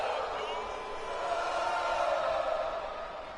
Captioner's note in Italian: Applauso